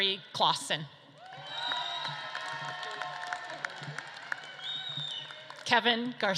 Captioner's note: audience claps and cheers